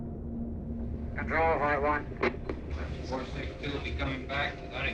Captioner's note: radio chatter